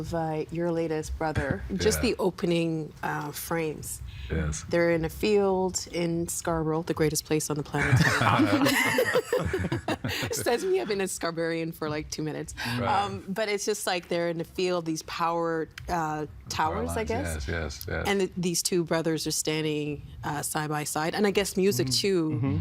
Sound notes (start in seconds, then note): 7.8 all laughing